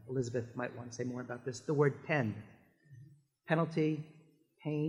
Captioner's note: french